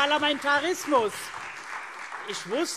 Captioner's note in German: Beifall SPD